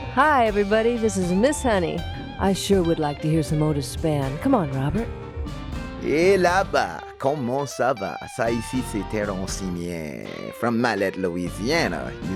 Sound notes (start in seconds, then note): 6.2 speaking in foreign language